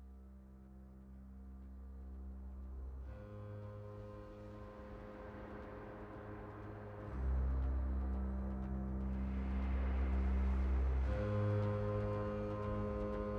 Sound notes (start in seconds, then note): none